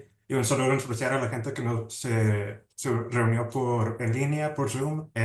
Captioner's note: speaking Spanish